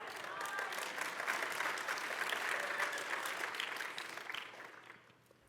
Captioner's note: applause